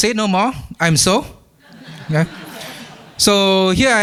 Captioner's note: laughter